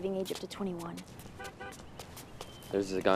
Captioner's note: car honking